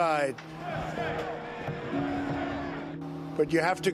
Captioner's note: crowd chanting